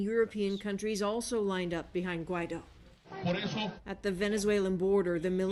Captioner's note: speaking spanish